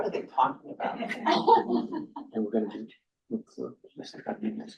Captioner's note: crowd chuckles